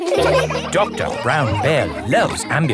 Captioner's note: all laughing